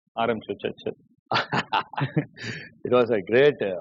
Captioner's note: laughs